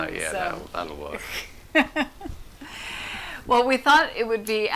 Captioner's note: laughs